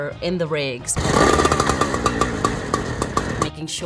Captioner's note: saw revs